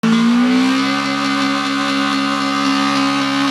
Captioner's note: engine humming